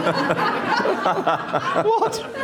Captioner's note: laughter